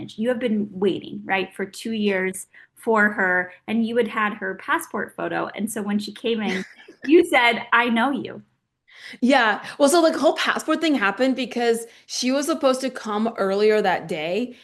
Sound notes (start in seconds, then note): 6.4 Oksana laughing